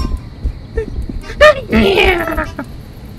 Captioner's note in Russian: смех макаки